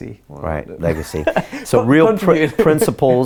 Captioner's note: laughing